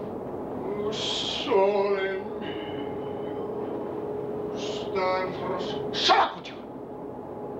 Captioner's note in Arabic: صوت منطوق باللغة الإيطالية